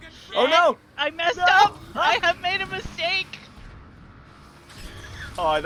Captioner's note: laughs